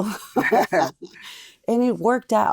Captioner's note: laughing